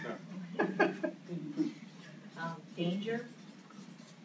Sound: laughs

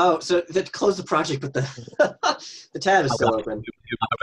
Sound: laughs

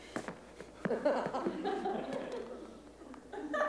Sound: laughter

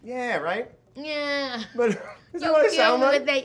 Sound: Brad and Keke laughing

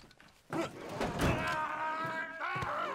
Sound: screaming

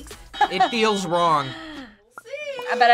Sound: alarm ringing

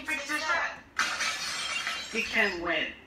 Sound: crashed

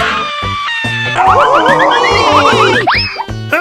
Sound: Bowser and mario Scream

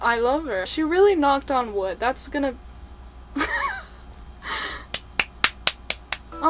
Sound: laughs and claps

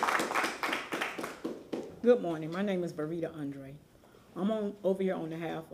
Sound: applause

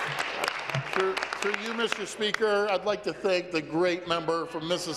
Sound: applause

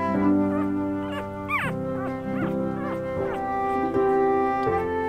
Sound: puppy gurgles

